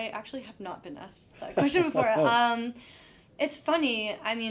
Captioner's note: laughing